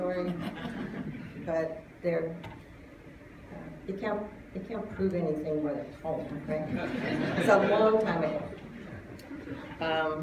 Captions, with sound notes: [Laughter] But-- they can't prove anything with a poem-- [Laughter] It was a long time ago.